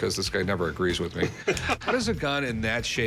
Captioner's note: laughs